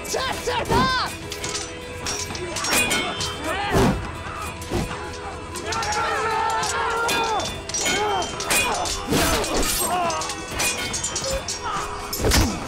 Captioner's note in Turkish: Çarpışma sesleri